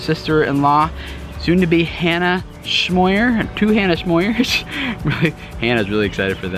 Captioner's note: laughs